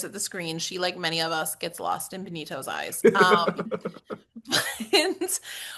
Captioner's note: laugh